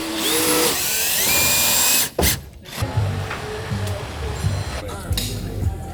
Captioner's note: construction noise